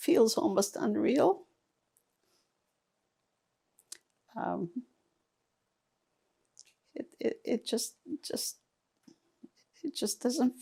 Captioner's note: pauses 6 seconds